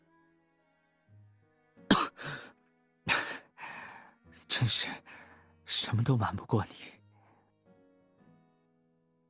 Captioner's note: cough